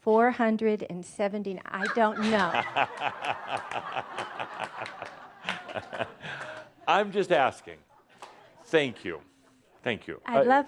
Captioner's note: laughter